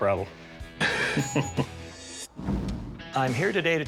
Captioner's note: laughter